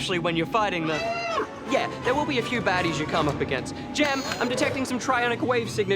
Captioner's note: alarm Sounds